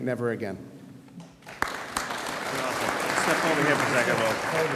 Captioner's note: audience applauds